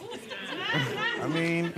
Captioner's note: audience laughing